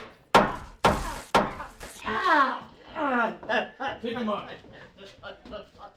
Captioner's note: weapon banging